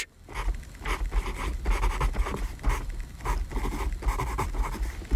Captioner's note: pencil scratching